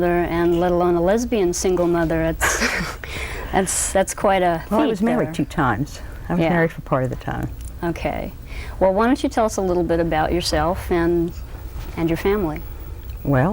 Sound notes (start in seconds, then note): 2.4 laughter